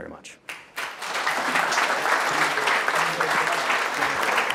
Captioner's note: audience clapping